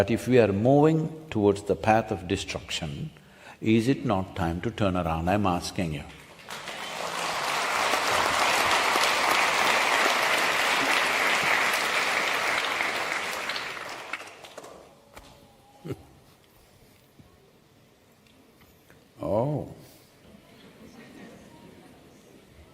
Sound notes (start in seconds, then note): 7.4 applause; 12.0 few laugh